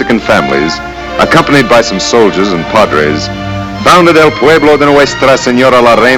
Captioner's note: speaks Spanish